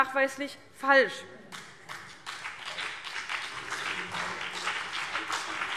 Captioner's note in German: Beifall CDU und BÜNDNIS 90/DIE GRÜNEN